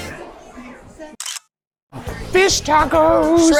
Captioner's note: camera clicks